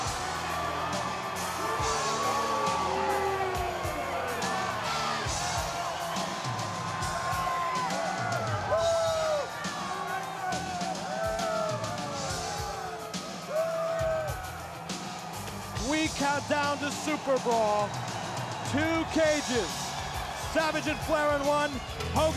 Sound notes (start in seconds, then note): 4.8 crowd cheering